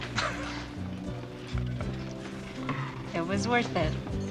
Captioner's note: Travis chuckling